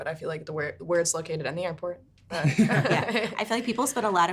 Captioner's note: laughing